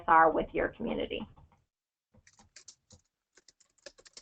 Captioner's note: typing